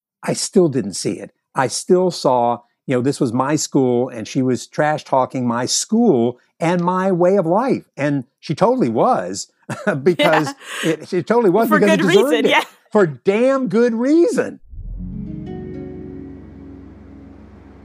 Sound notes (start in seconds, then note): 9.8 laughs